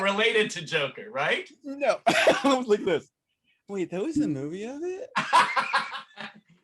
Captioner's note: laughter